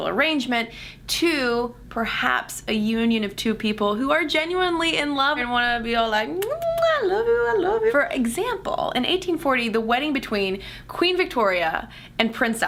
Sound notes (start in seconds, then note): 6.3 kissing sounds